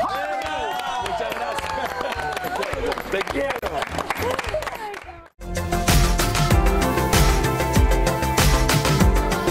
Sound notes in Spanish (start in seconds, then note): 3.6 risas; 4.6 aplausos